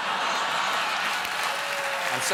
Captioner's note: cheers and applause